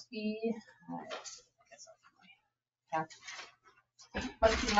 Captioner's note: papers shuffling